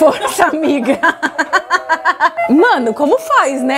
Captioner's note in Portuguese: risos